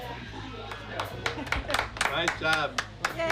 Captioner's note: clapping